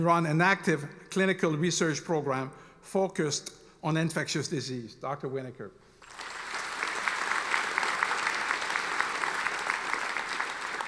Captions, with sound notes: and run an active clinical research program focused on infectious disease, Dr. Winokur. (audience applauding)